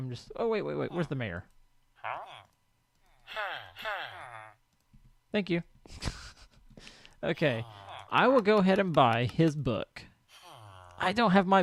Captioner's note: librarian: hah hah